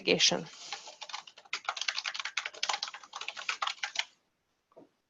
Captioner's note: keyboard keys clacking